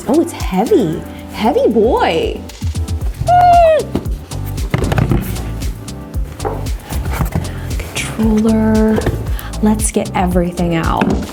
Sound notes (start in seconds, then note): 3.8 headset rolling